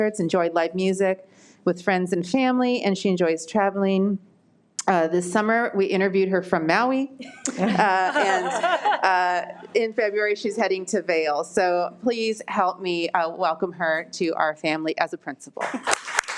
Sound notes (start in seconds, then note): 7.4 people laughing; 15.7 all applauding